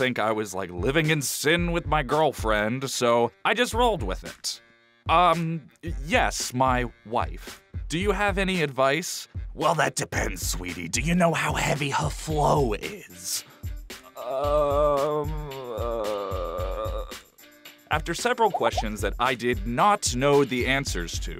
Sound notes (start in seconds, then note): 14.1 groans